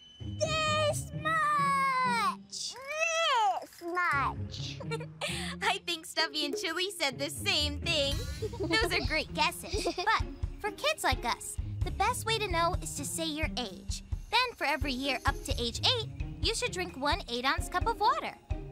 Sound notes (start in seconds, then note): 4.7 Doc giggles